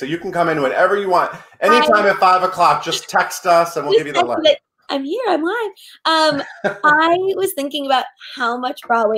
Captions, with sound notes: so you can come into it whenever you want. Any time at 5 o'clock, just text us and we'll give you the line. - Just text and be like, I'm here, I'm live. (laughing) I was thinking about